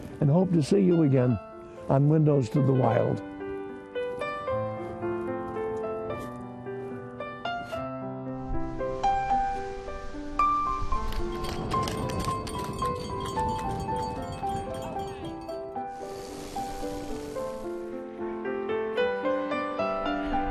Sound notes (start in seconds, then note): 3.7 soft music; 11.3 bell ringing; 16.4 wind